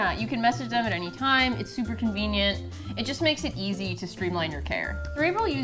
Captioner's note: none